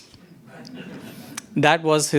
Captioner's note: audience laughs